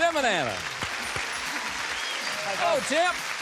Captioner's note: applause